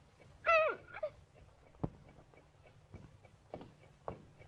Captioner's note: Lottie moans